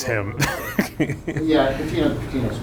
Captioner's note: laughing